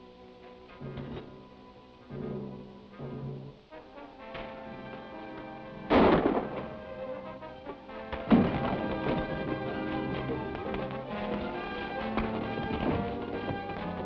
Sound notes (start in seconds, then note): 1.2 suspenseful music; 5.8 gun fires; 8.1 suspenseful music